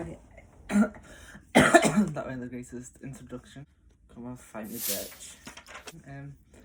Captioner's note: coughing